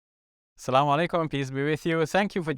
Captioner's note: speaking in foreign language